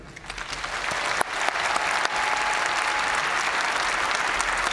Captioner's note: audience cheering and applauding